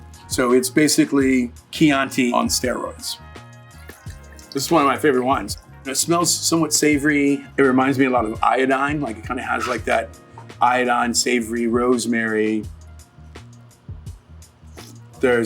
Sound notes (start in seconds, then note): 3.6 wine pouring; 12.7 relaxed hip-hop music